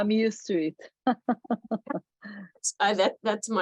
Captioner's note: laughs